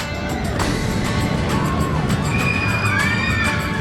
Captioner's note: cheering